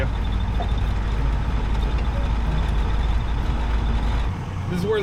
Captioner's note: soft guitar music; truck rumbling